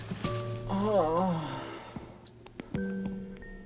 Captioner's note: sleepy moan